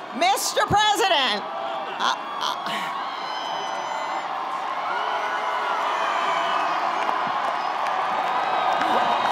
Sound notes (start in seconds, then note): 1.5 audience applauding; 1.7 audience cheering